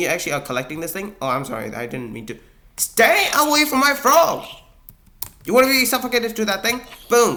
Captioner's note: zombie groans